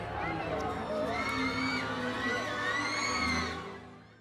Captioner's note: people cheering